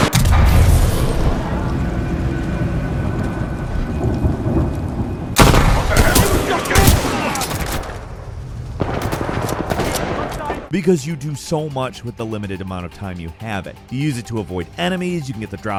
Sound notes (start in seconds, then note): 0.0 explosion blasts; 0.0 guns blasting; 6.0 men grunting